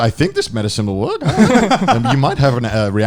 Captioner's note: laughing